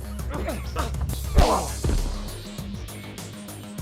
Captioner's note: both grunting; intense music continues; heads knocking